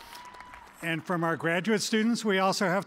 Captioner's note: applause